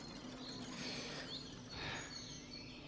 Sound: takes a deep breath

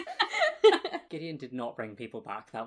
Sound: laughing

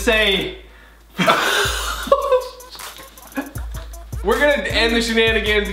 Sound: brothers laugh loudly

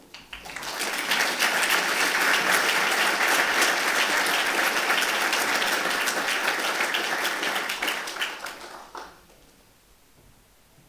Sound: applause

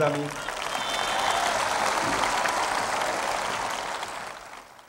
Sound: applause and cheering

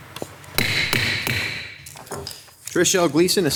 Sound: gavel banging

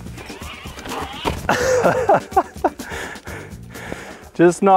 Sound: laughing

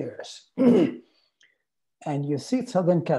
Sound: clears throat

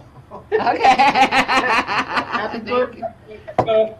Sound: laughing

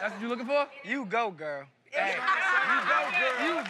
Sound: laughing

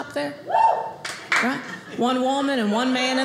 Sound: woman cheers

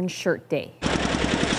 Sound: speaking indigenous language

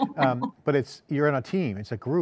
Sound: chuckles

